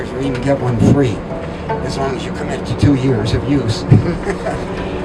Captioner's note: laughing